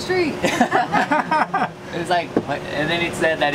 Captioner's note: laughter